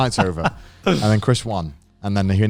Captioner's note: chuckles